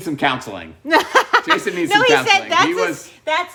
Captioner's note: laughing